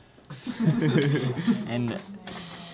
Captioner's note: laughing